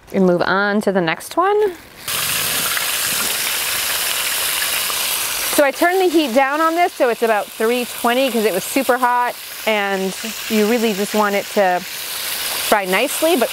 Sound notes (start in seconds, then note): 2.3 oil sizzling